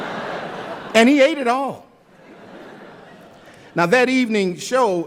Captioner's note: laughter